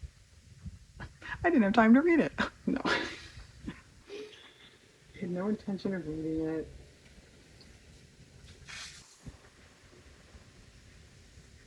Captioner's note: laughs